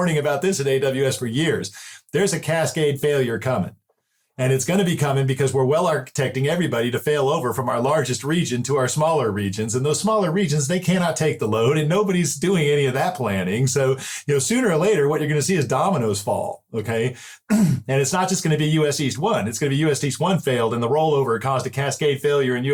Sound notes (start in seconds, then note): 17.4 clear throat